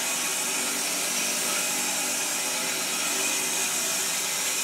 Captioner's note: saw whirring